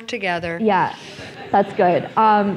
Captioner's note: laughter